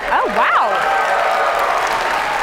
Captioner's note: applause